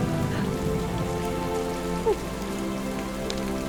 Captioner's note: sighs